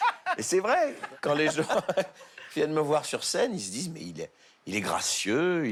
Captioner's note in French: rires